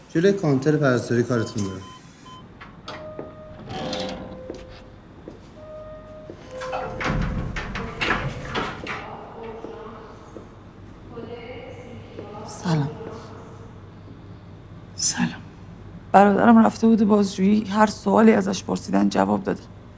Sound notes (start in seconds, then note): 2.4 door opens